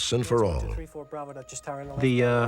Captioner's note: chatter